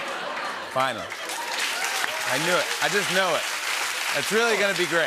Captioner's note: laughter and applause